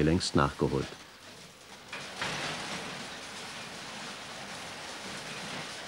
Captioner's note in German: ratternde Maschinen